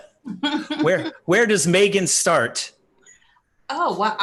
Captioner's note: laughing